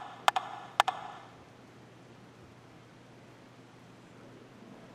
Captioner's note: rhythmic tapping